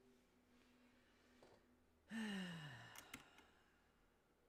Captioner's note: drawn-out sigh; mouse and keyboard clicking